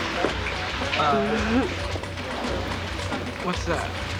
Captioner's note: laughs